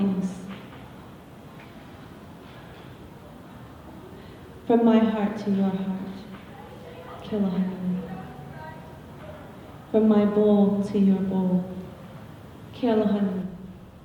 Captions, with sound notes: From my heart to your heart [foreign word spoken], from my bowl to your bowl [foreign word spoken].